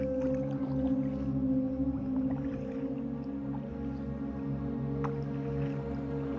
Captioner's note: paddling sound